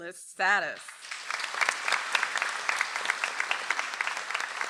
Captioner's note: audience applauds